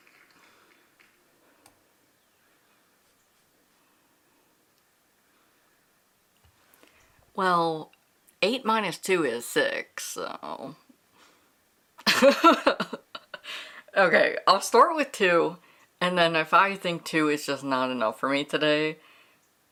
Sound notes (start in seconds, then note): 0.1 silence; 12.0 laughs